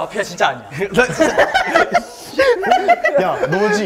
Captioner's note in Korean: 으흐흣흐ㅋㅋㅋ